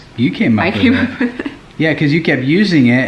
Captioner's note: laughs